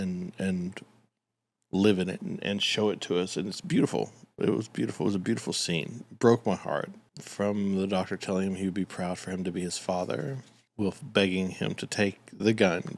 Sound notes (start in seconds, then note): none